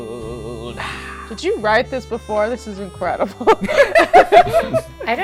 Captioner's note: laughter